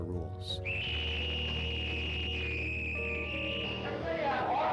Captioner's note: screeching Noise